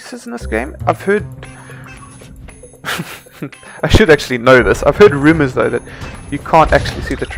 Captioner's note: snickers